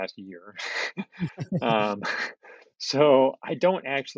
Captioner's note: laugh